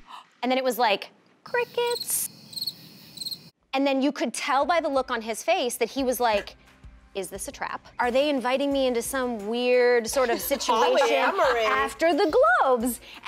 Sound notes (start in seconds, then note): 1.6 crickets chirping